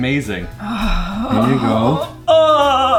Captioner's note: strained sigh